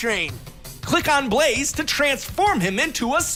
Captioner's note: none